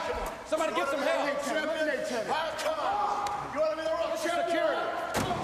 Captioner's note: men chattering